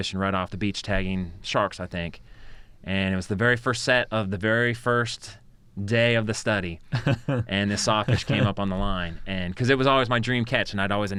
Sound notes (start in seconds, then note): 6.9 chuckles